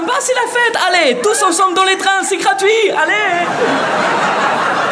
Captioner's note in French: Rires